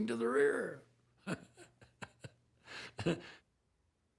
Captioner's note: laughing